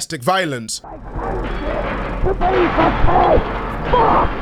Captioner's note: muffled yelling and crashing